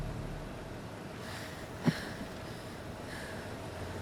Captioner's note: Quinn panting